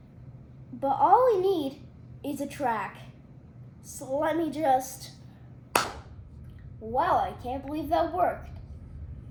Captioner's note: clap